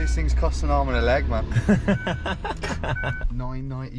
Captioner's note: laughing